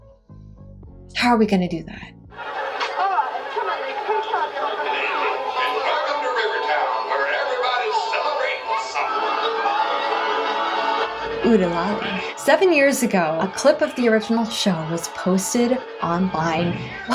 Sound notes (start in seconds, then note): 2.8 audience chatter; 9.2 whirring and honking